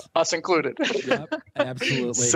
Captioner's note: laughter